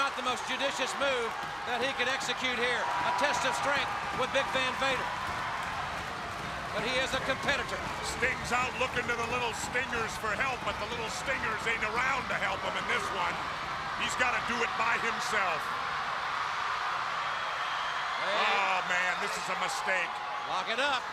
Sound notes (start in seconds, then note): 5.3 crowd cheering; 16.7 crowd cheering